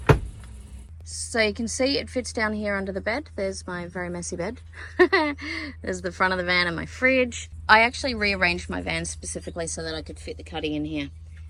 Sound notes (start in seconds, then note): 4.7 laughs